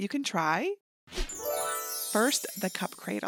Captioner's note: glittery whoosh